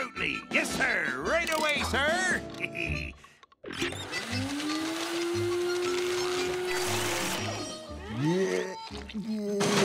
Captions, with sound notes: Yes, sir. Right away, sir. [laughs] [vacuum whirring] Bleh. Bleh.